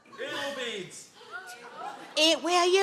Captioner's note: audience gasp